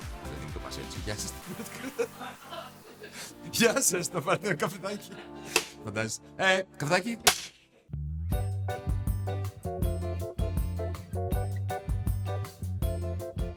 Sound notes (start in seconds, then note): 1.4 laughter; 5.1 laughs